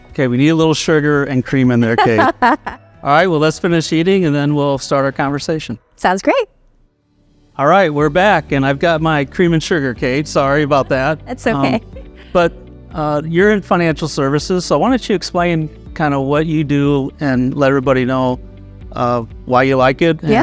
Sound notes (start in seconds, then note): 1.8 laughing; 6.8 upbeat music; 10.2 laughing